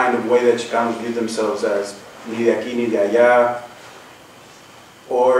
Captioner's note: non-english